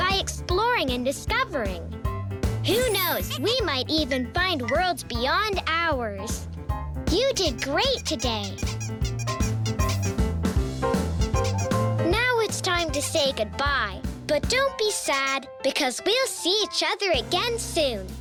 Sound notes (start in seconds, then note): 9.1 squeaking